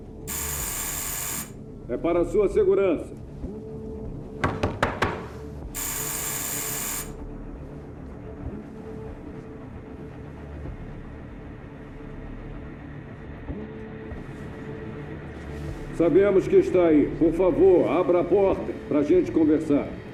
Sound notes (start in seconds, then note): 0.2 buzzing continues; 4.4 knocking knocking